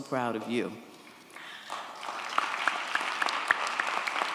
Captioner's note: audience applauds